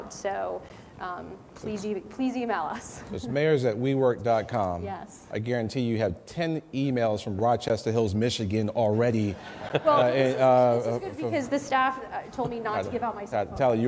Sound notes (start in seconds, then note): 9.4 laughing